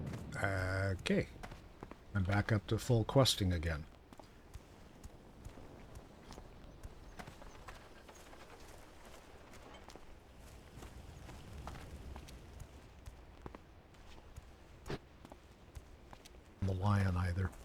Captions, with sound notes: - Okay, and back up to full questing again. (footsteps) - I'm a lion either.